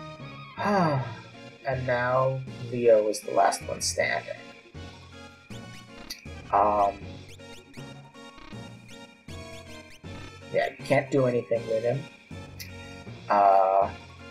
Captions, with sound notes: [sighs] And now, Leo is the last one standing. Yeah, you can't do anything with him.